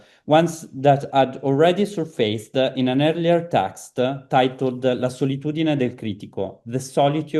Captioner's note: italian